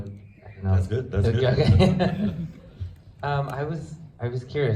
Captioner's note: laughs